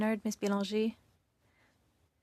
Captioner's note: speaking French